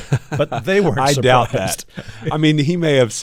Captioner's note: laughter